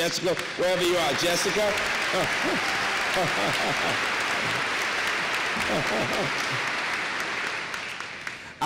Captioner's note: applause